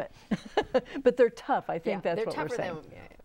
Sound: laughing

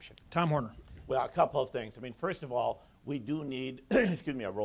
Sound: coughs

